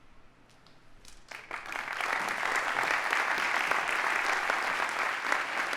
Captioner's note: audience applauding